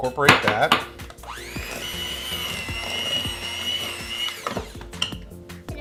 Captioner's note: blender blending